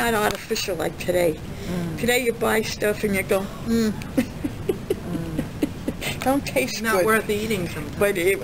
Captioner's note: laughs